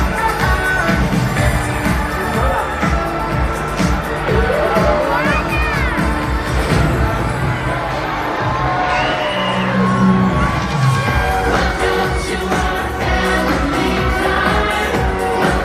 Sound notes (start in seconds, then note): 0.0 bright music continues; 9.9 guests cheer